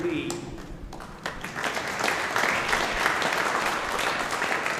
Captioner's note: audience applauding